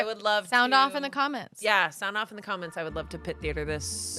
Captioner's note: none